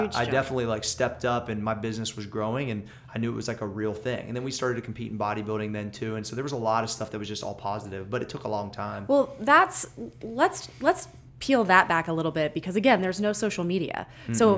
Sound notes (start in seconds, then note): none